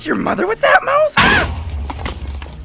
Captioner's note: kaboom